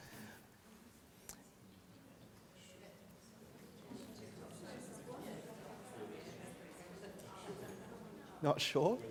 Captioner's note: audience chatter